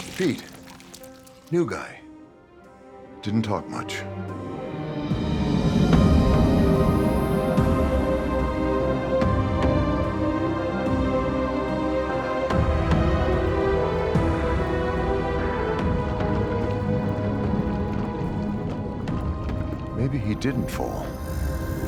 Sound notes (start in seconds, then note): 5.3 dramatic music; 14.8 dramatic music continues; 18.2 liquid bubbling